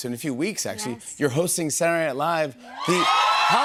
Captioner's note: audience cheers